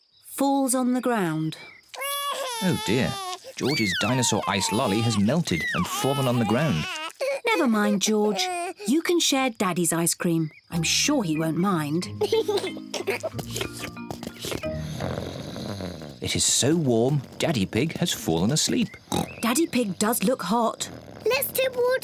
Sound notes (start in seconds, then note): 10.5 giggles; 12.7 snores; 14.8 oinks